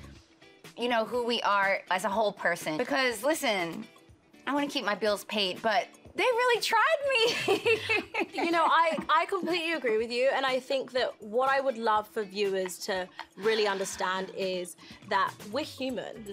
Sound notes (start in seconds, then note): 7.3 laughs